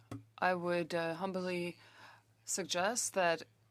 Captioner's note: speaking French